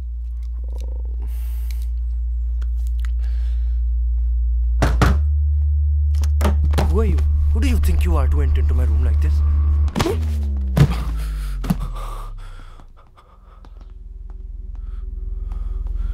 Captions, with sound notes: (Tense music) (Knock on the door) Who are you ? Hey, what do you think you are doing entering my room like this? (Slapping sound)